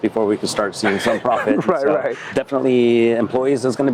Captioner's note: laughs